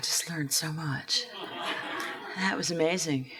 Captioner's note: laughs